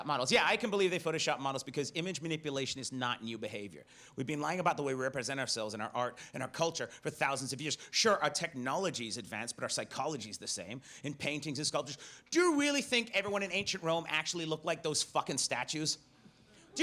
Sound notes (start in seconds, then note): none